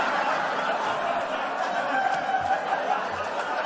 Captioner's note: laughter